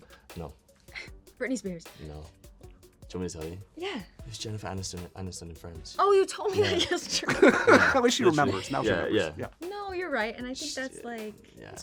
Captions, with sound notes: No. Britney Spears? -No. Do you want me to tell you? Yeah. It's Jennifer Aniston in ‘Friends.’ Oh, you told me that yesterday. (LAUGHING) At least she remembers. Now she remembers. Yeah, yeah. -No, you're right. And I think that's like–